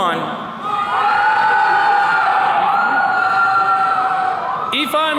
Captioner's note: attendees cheering